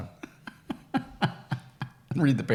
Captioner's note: laughing